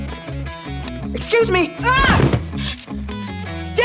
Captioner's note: groaning